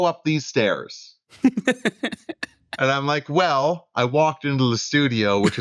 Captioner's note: laughter